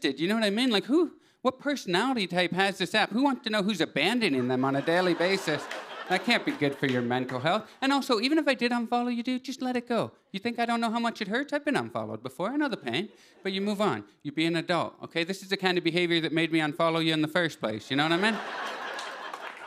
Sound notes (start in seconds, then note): 4.3 laughter; 18.0 laughter